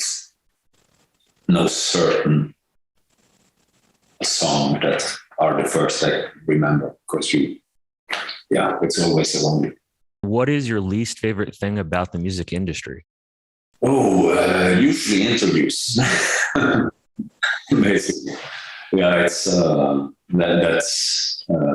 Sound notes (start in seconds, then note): 15.8 laughs